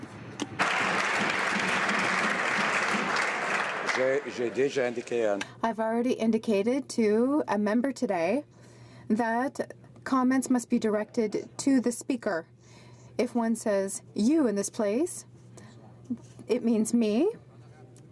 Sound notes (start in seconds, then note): 2.9 some Applause